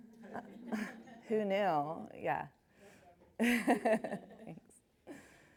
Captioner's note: laughs